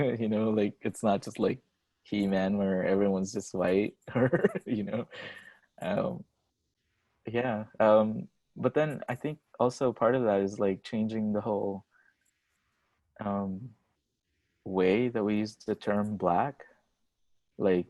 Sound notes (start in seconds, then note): 6.7 laughs